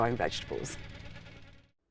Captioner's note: mover engine roars